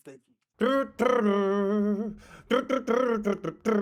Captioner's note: humming